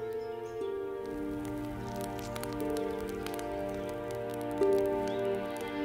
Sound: fire crackling; tender music

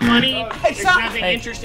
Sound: buzzer

